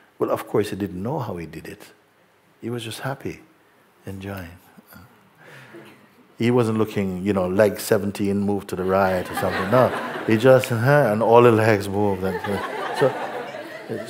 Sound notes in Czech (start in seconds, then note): 8.9 smích; 12.1 smích